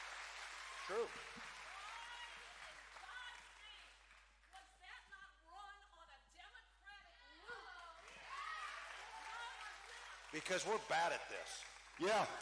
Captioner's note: cheering